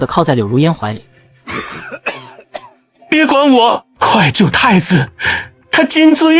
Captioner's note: coughing violently